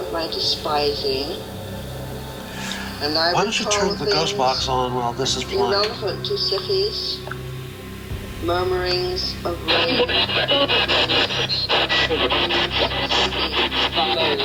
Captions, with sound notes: Why don't you turn the ghost box on while this is playing? - [Voiceover] Murmurings of...